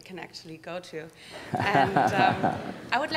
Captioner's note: laughter